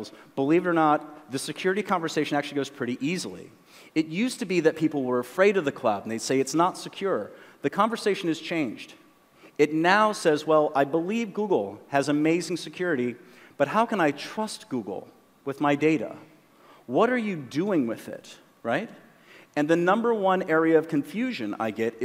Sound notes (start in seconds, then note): none